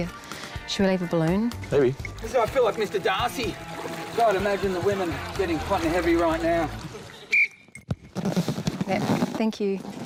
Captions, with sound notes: Should we leave a balloon? Maybe. I feel like Mr Darcy. I'd imagine the women getting hot and heavy right now. [BLOWS WHISTLE] Yep, thank you.